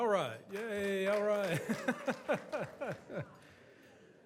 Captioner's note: laughs